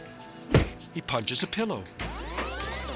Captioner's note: funky music; fist thudding